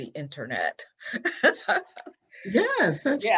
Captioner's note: laughs